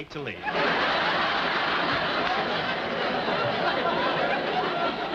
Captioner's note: audience laughing